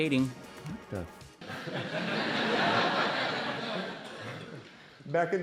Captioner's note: laughter